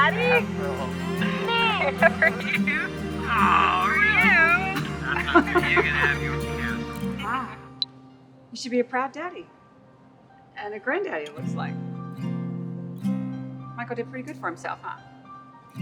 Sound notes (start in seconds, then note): 4.2 Carla chuckling